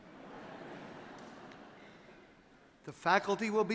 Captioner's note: audience laughing